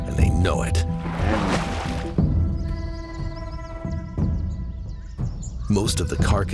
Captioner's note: bear grunts and splashes water angrily